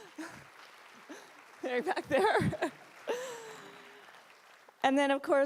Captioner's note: applause